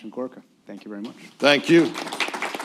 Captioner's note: applause